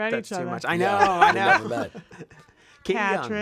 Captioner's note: laughs